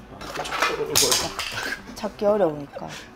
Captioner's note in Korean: 와장창